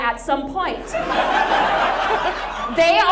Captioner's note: audience laughs